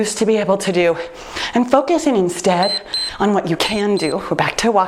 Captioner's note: timer beeps